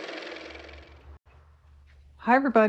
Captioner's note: car motor